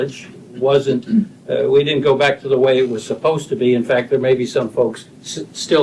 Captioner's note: clears throat